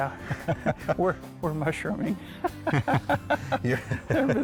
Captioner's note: both laughing